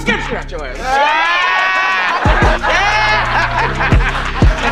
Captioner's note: group laughing